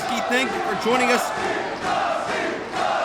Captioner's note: crowd